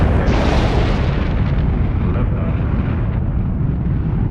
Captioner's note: rocked engine whooshing